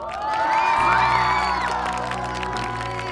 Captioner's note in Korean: 짝짝짝짝짝